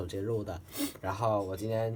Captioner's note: blow my nose